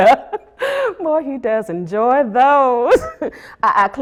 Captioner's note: chuckles